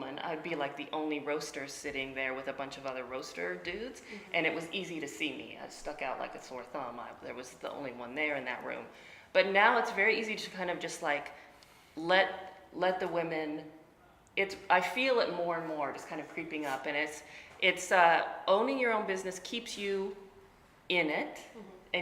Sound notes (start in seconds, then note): none